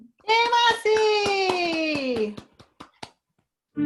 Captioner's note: cheering